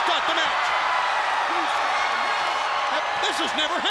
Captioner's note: crowd cheering